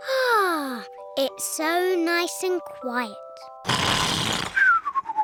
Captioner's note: sighs happily; george snores loudly